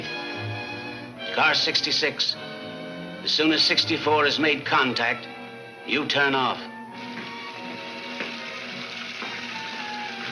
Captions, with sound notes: Car 66, as soon as 64 has made contact, you turn off. (water splashing)